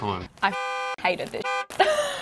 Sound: beep

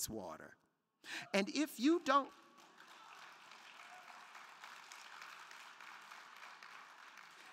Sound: crowd clapping

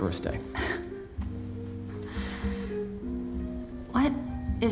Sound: chuckles

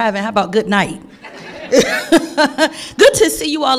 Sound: all laughing

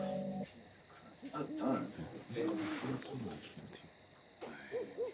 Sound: chattering

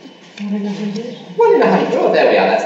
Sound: voiceover

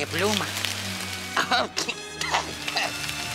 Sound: coughs

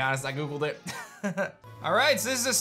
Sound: soft chuckle

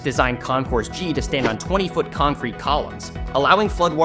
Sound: air whooshes

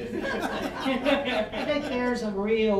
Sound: all laughing

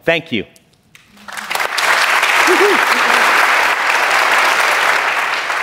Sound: applause

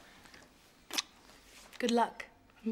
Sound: lips smacking

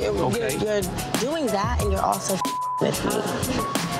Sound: beeps

